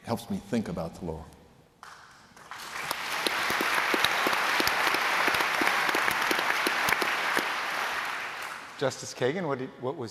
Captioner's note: applause